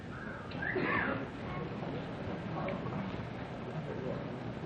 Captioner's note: whistling